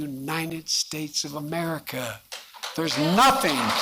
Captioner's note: applause